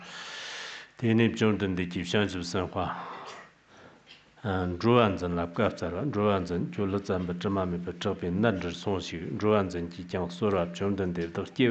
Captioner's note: giving oral transmission in Tibetan